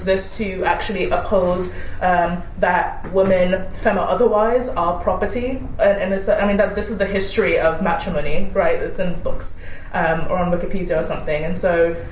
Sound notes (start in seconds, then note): none